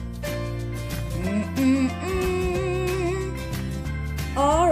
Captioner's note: hums